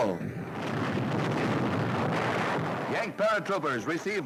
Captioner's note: bombs exploding